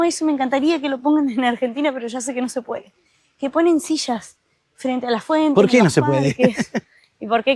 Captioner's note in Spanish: risas